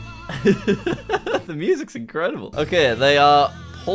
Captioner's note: laughs